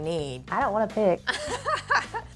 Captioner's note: both laugh